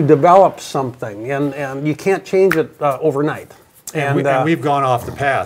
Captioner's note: snaps